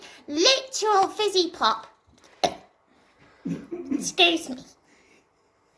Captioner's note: tiny burp